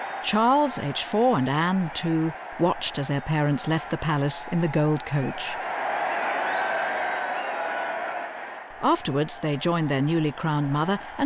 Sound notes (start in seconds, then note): 0.0 crowd cheering; 6.0 crowd cheering